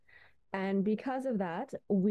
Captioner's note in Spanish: habla en ingés